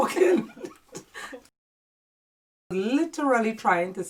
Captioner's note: laughing in unison